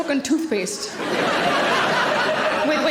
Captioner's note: audience laughing